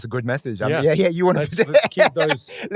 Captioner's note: laughing